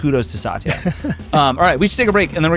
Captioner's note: laughs